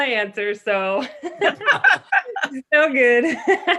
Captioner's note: laughing